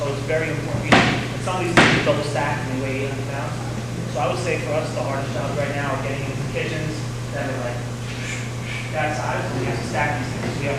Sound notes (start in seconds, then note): 8.4 whooshing